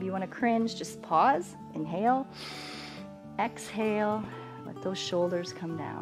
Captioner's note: inhales